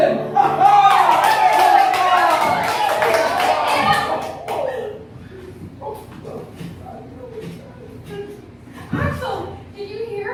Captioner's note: cheering and clapping